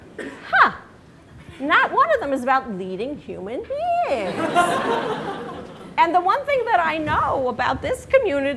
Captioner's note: laughter